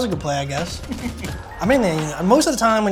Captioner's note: laughter